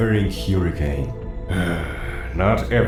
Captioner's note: sigh